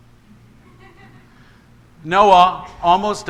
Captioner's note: congregation laughs